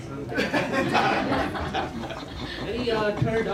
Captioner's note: laughter